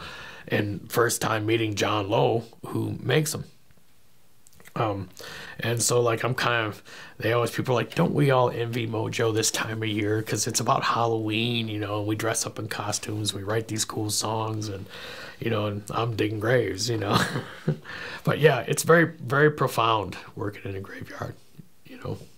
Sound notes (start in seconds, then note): 17.1 laughing